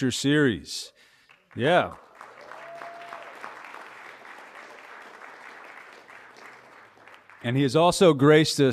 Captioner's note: applause